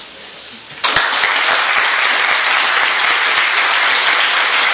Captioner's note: applause